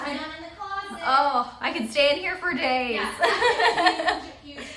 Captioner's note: laughs